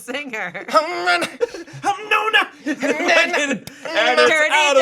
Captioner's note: group imitating music